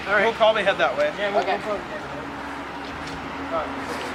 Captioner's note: traffic humming continues